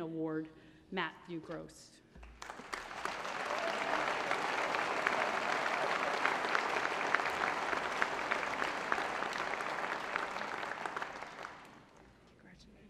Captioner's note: applause